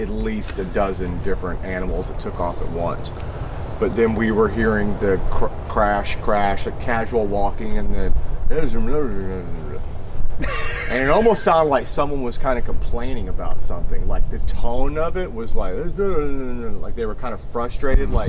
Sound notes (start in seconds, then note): 10.3 laughing